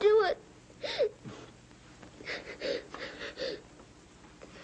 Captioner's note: sobbing